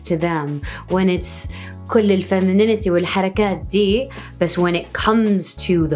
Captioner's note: foreign language